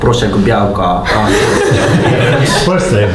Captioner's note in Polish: śmiechy